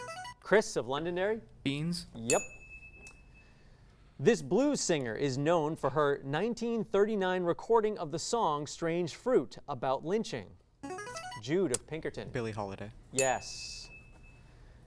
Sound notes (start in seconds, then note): 2.2 ding; 10.8 signaling device tone; 13.2 ding